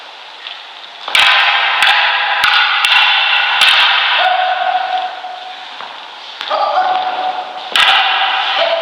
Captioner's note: staves clacking, shouts of exertion